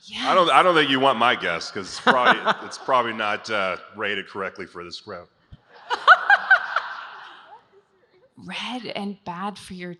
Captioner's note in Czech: smích